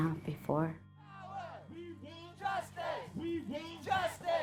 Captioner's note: chanting